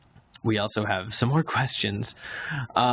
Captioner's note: laughs